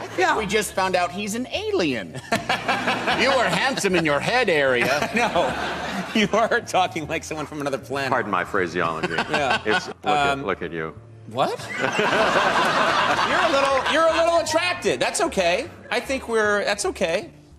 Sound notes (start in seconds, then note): 11.6 crowd laughter